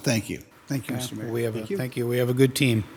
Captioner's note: overlapping chattering